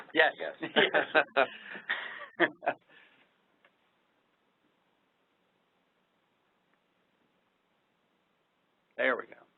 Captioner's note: laughter